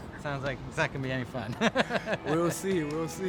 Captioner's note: laughs